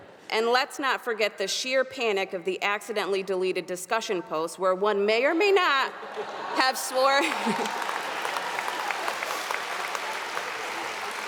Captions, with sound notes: And let's not forget the sheer panic of the accidentally deleted discussion posts where one may or may not have swore. (audience applauding)